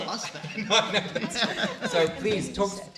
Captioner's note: laughing